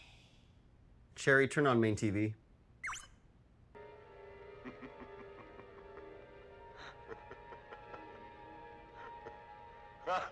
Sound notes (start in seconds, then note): 2.8 Cherry beeps; 7.5 laughing